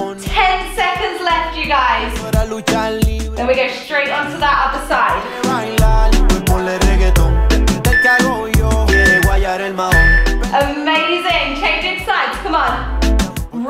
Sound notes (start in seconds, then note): 8.9 workout timer beeping